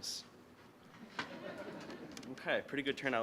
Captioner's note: audience laughing